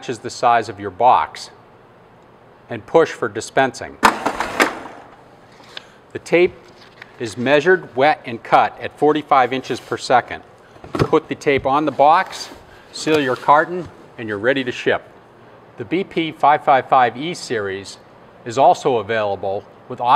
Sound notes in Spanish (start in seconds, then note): 4.0 ruido metálico